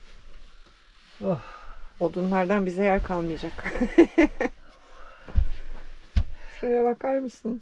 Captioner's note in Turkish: kahkaha